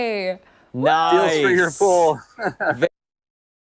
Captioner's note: laughter